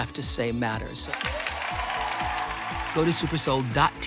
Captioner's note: cheers and applause